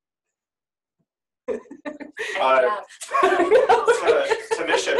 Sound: laughing

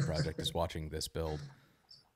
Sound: laughs

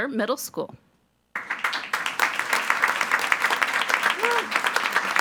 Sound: attendees applauding

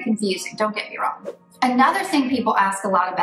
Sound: air whooshing

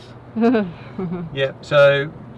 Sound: laughs

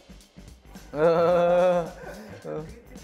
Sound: laughter

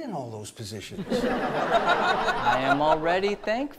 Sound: audience laughs

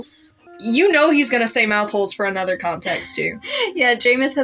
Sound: laugh

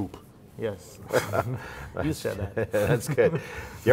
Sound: laughing

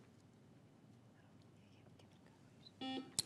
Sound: teammates whisper; buzzer beeps

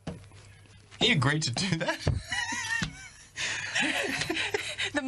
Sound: both laugh

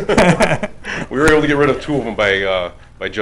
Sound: laughing

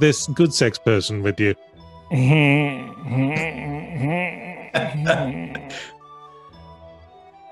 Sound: Goodsex makes some pervy ass sounds

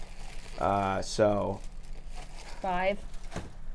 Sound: plastic rustling

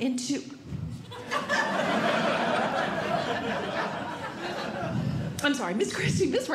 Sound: audience Laughing

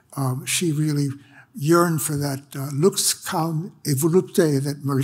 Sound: speaks foreign language

